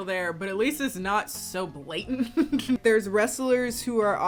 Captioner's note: laughs